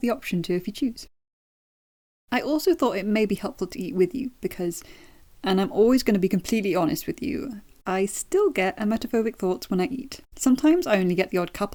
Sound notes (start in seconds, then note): none